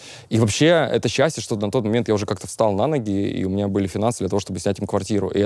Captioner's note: none